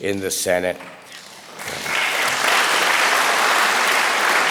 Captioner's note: audience applause